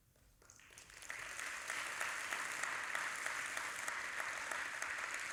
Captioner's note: audience applauding